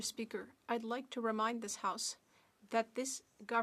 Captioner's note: speaking French